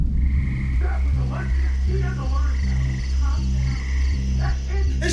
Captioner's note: Joseph shouting